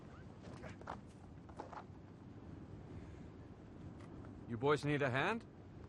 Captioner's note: speaking foreign language